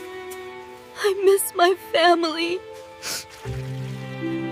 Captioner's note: snorts; snorts again